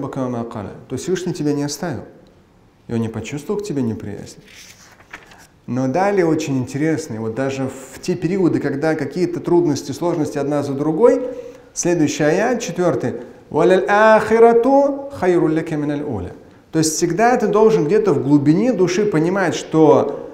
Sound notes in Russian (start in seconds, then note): 0.0 говорит на арабском; 13.1 Говорит на арабском